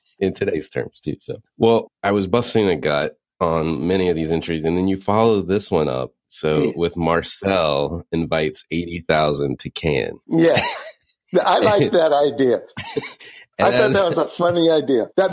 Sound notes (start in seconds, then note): 11.4 laughs